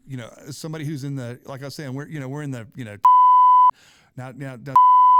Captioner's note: beep